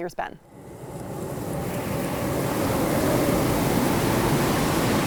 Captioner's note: wind howling